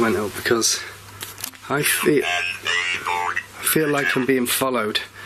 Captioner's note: Ovilus chattering